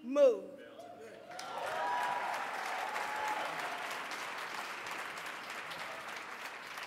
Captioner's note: audience clapping and cheering